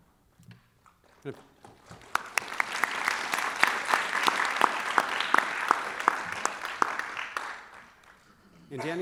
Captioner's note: applause